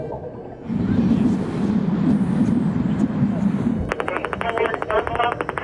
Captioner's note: air waves rumbling